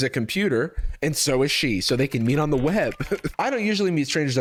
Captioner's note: chuckles